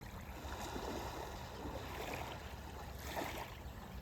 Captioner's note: ocean lapping